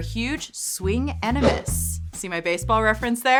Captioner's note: air whooshing